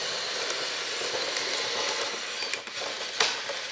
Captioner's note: motor whirs